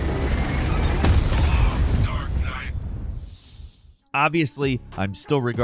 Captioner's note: explosion booming